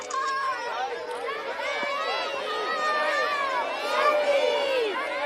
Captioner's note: semua berteriak